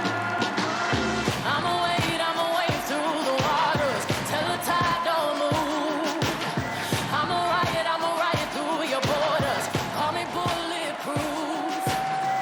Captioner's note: cheers and applause